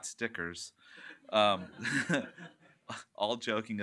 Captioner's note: laughter